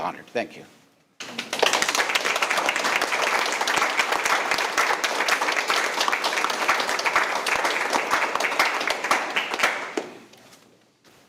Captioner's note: all applauding